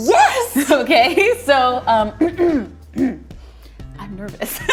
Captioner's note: clears throat